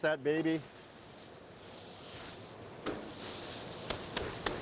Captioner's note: chuck roast sizzling